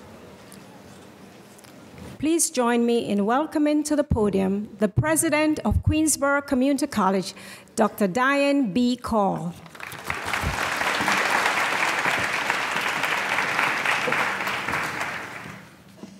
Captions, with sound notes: Please join me in welcoming to the podium, the President of Queensborough Community College, Dr. Diane B. Call. (applause)